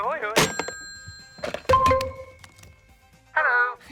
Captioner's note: tinkling